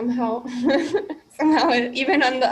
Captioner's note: laughs